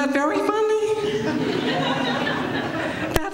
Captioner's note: laughter